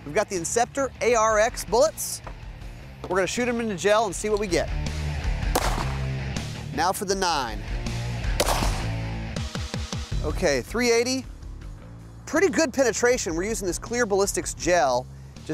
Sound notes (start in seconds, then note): 5.5 gunshot; 8.3 gunshot; 9.0 metal music